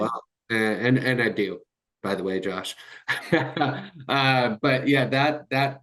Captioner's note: chuckles